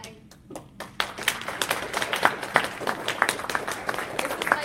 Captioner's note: applause